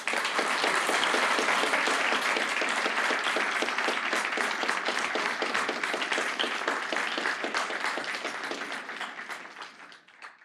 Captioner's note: applause